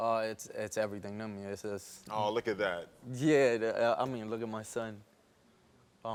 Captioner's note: none